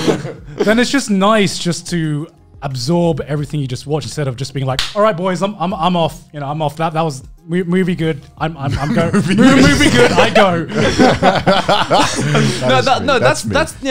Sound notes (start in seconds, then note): 8.7 laughing